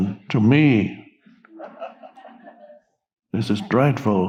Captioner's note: audience laughing